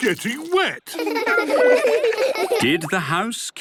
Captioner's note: laughter